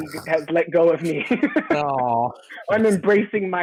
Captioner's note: soft laughing